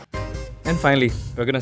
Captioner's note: voiceover